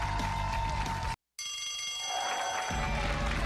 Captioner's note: cheers and applause